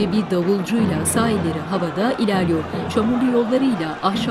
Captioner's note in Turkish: Bağrışmalar